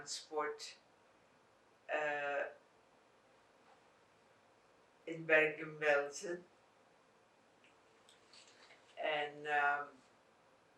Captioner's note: pauses 6 seconds